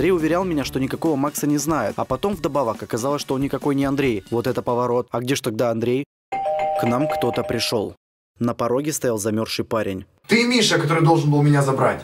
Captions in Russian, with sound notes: Андрей уверял меня,что никакого Макса не знает А потом вдобавок оказалось что он никакой не Андрей. Вот это поворот. А где-же тогда Андрей? *звонок* К нам кто-то пришел... На пороге стоял замерзший парень. Ты Миша который должен был меня забрать?!